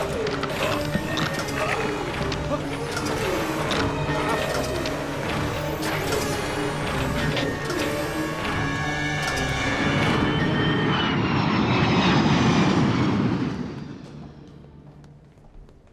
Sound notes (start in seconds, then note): 1.2 moan; 10.6 aircraft noise